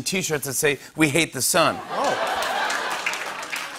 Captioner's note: laughter